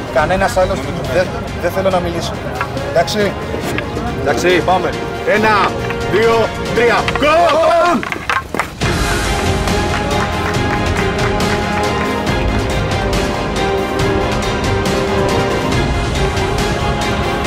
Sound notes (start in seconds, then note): 7.2 sticks clang; 9.2 applause